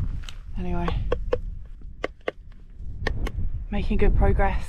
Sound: tapping on ice

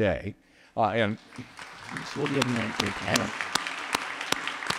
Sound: audience applauding

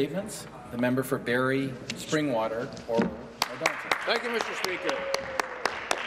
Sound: some Applause

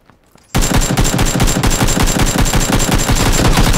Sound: gun firing rapidly

